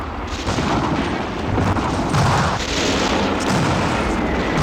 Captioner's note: explosions booming